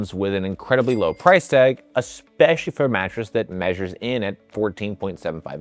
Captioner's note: bell dinging